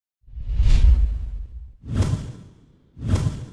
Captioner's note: whooshing